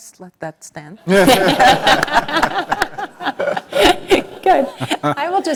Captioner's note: laugh